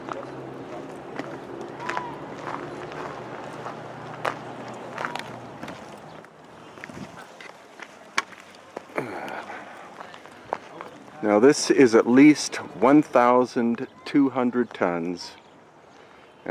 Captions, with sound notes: (tourists chattering) (traffic droning) (tourists chattering) (traffic droning) Now this is at least 1,200 tons and recent excavations show